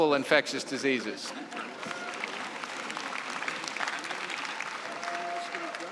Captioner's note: laughter and applause